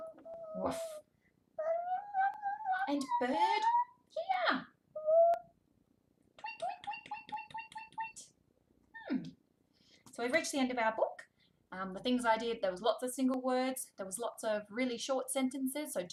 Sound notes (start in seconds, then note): 0.5 barking; 1.6 babbles; 6.4 chirping